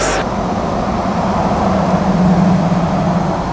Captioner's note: engine roaring